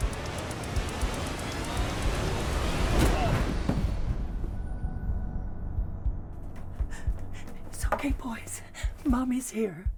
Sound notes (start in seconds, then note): 2.8 Skull-Faced Assailant groans; 6.8 gasping